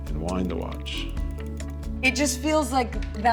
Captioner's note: winding sound